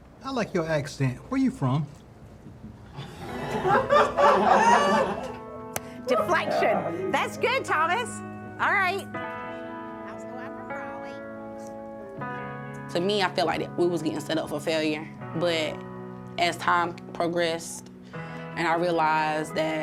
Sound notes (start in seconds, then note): 2.9 people laughing; 9.5 soothing music